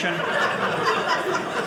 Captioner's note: audience laughing